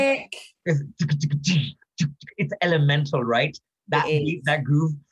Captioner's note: beatboxes